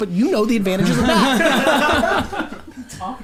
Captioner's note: group laughs